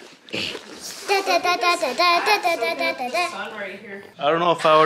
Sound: babbling

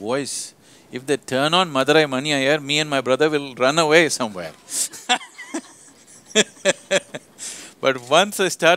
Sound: laughs

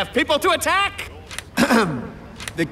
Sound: clears throat

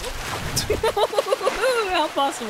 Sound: laughter

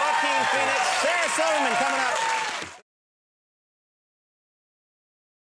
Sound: crowd applauds

